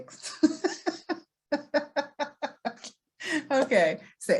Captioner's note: laughs